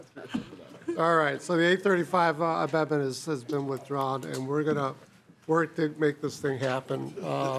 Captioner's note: laughing